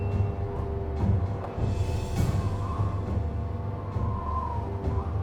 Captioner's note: ominous music; wind howling